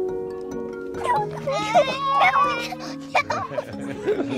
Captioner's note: giggling